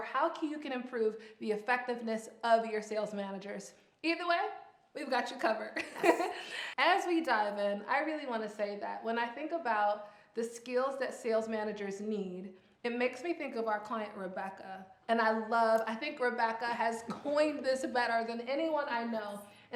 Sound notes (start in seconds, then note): 5.7 laughs